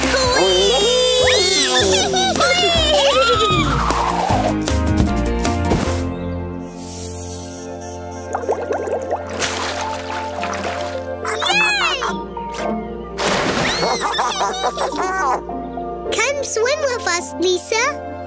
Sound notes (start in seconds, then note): 13.2 splash; 13.8 giggling